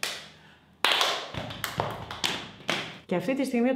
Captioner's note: claps